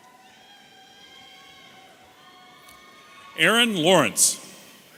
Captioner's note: audience cheering